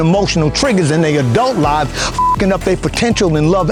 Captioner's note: beep